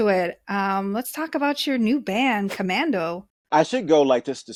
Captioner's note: whooshing sound